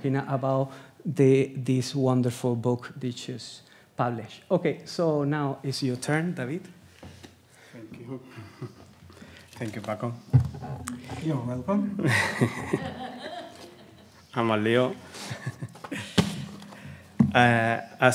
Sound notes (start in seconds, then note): 12.0 laughs; 12.0 audience laughs; 14.9 speaks in Spanish